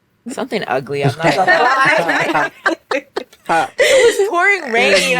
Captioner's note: all laughing